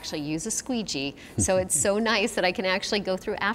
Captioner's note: chuckles